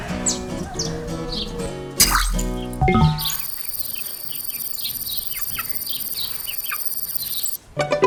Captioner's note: beeps